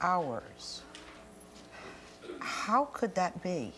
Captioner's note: audience gasps